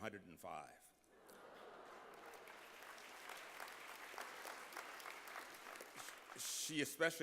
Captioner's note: applause